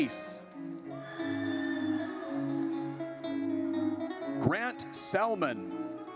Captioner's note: audience cheers